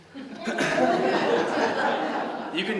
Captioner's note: laughter